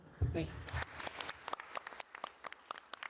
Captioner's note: applause